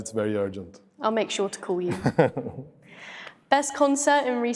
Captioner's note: laughs